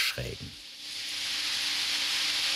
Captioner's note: hiss